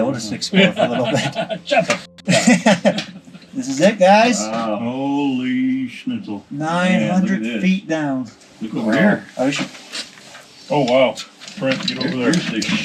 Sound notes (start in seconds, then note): 1.7 group chattering; 1.7 group laughing